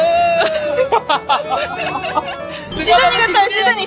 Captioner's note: laughter